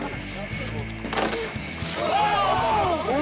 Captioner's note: branch cracking; all shouting